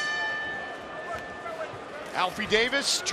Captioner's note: bell dings